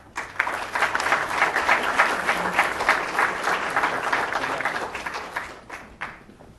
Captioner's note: applause